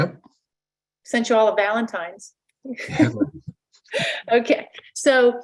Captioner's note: laughs